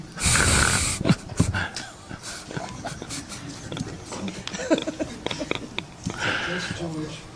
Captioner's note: laughter